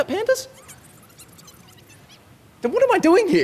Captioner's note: producer's speeded up conversation